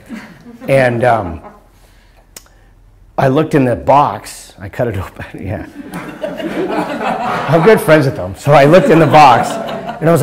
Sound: laughter

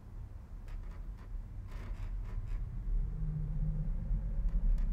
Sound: floor creaking

